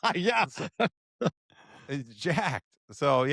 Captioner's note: laughs